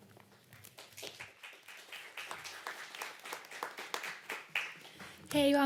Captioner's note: applause